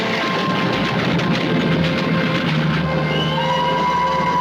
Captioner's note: train whistle